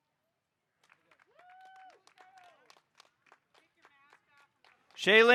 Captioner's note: audience cheering and applauding